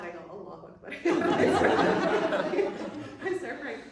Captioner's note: laughter